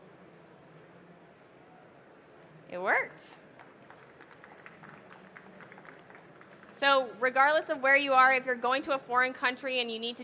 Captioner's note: applause